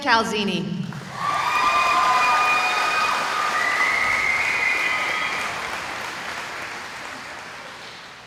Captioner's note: cheering